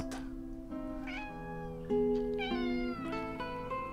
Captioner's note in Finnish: Kissa naukuu